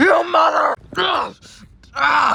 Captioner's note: screams